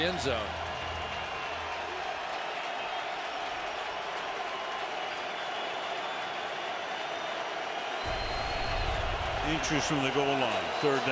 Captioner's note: crowd cheering